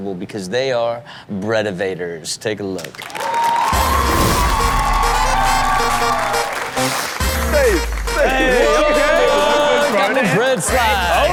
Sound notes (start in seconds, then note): 3.0 cheering; 4.7 applause; 6.5 upbeat music